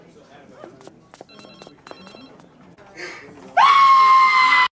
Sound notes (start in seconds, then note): 3.6 violently screams